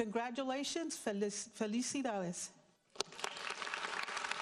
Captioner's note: speaking in foreign language; audience applauds